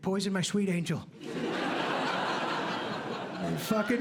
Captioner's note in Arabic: ضحك